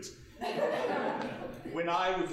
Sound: audience laughing

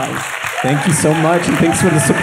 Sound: audience applauds

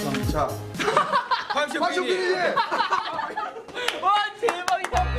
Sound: & Staff laugh; laughs

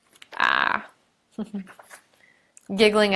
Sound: chuckling

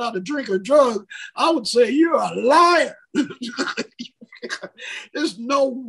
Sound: laughs

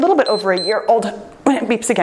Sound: timer beeps

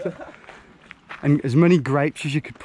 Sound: laughing

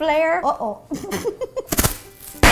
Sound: laughs; dough smacks

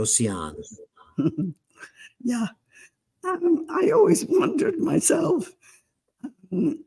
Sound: laughing

